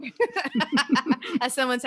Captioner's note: both laughing